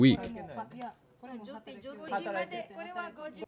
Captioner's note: group chatter